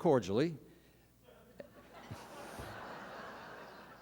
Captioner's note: laughter